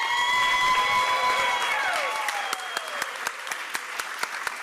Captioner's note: applause